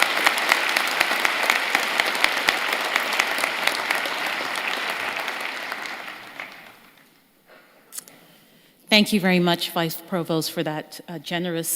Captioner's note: applause